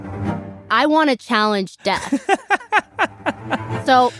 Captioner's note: laughs